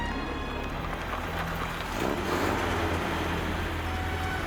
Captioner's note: jeep rumbling